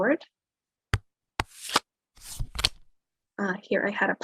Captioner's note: cards shuffling